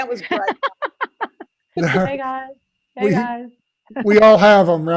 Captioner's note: laughs